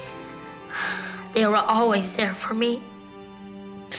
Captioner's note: sighs